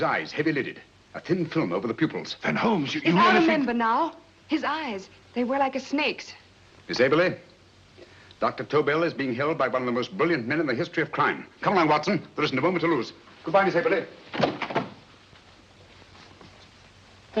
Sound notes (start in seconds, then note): 14.3 door opens